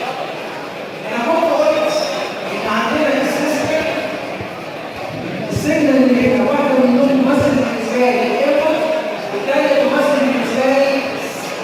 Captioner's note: system signal